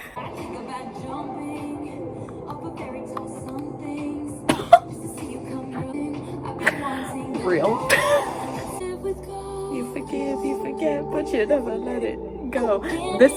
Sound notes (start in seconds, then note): 4.5 surprised laugh